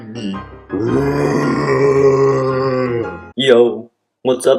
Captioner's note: roar